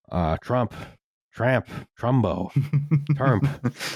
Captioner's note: chuckles